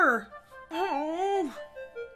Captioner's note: disappointed whimper